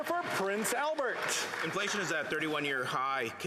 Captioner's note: applause